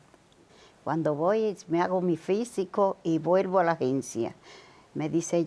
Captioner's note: speaking Spanish